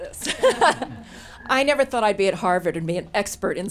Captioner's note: laughs